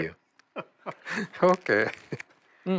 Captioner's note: laughs